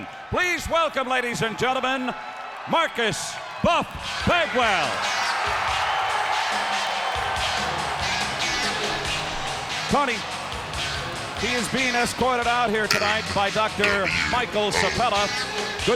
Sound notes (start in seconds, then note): 5.8 applause